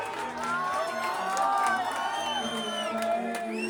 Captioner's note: Aclamaciones y aplausos